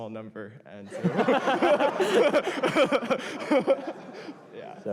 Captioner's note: laughter